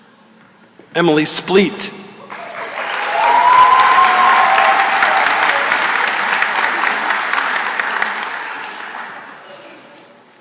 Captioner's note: cheering and applause